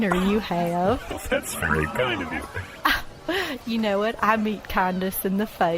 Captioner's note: laughing; small laugh